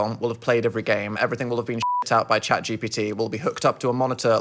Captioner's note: beep